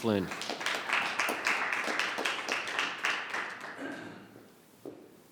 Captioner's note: audience clapping